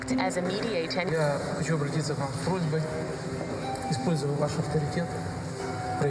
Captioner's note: speaking foreign language